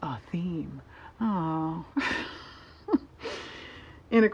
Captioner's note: laughs